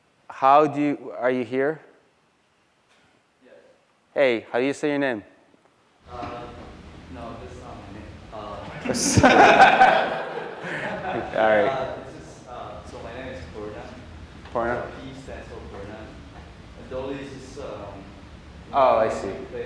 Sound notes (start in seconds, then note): 8.7 laughter